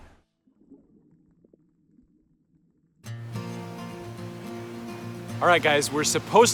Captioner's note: underwater sounds followed by soft guitar